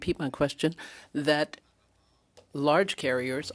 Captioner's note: speaking French